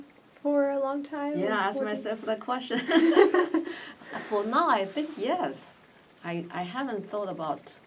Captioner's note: all laugh